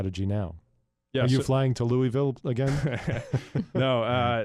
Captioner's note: chuckle